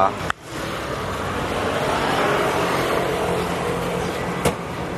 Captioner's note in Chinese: 巨大摩托車聲